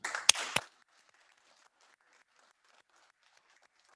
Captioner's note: all applauding